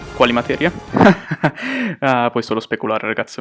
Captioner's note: laughs